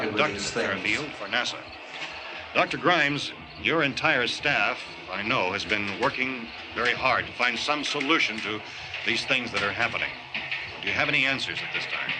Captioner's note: TV news